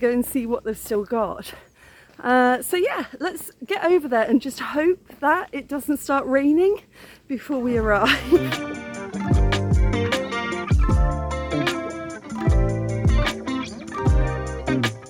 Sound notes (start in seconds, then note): 7.8 laughing; 9.9 chill music